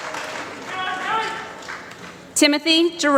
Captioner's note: applause